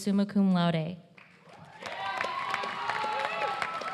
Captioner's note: applause